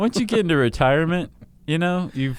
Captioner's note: laughs